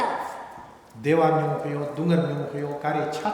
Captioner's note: speaking tibetan